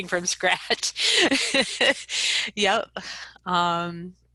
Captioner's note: laughs